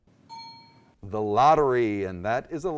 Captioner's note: ding